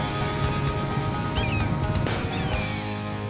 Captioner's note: bird squawking